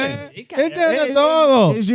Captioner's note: speaking In Foreign Language